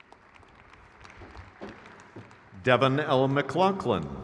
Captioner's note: crowd cheers